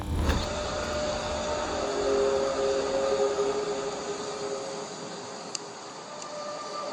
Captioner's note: suspiciously sinister source reverberates